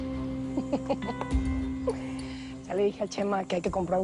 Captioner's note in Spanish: Risas